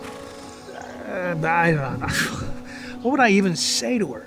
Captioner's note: scoffs